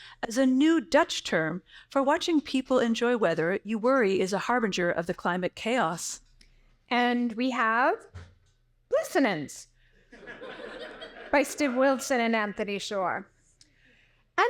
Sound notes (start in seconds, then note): 10.1 audience laughing